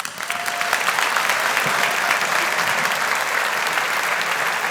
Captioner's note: audience applauding